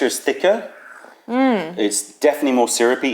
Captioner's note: sips tea